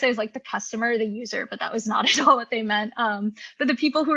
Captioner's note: laughs